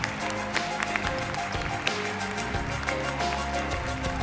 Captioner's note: applause